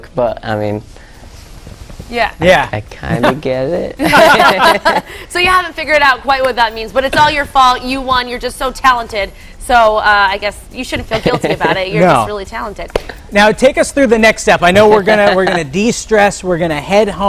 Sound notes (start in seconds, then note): 8.5 laughter